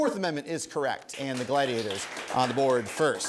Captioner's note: applause